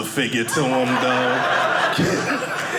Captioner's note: audience laughing